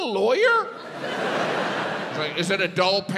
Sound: audience laughs

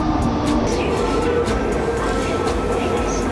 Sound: japanese subway announcement

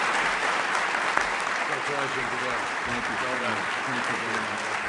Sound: applause

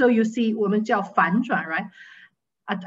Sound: speaking foreign language

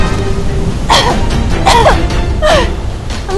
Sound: cough cough

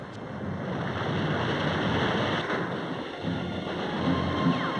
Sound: waves crashing

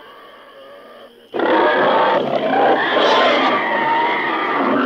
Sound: pigs grunting

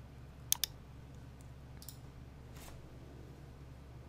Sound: mouse clicks

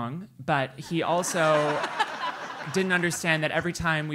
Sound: laugh

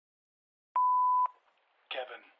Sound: beep

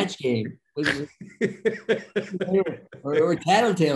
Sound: Denis laughing

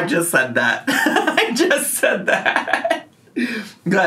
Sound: laughing

